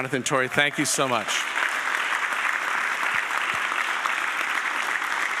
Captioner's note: audience applauding